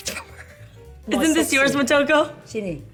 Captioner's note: laughs